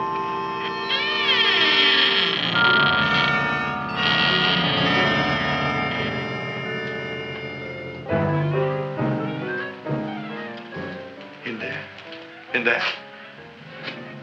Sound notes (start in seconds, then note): 0.6 Audrey Jr. creaking